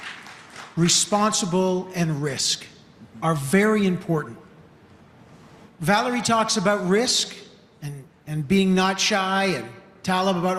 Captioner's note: applause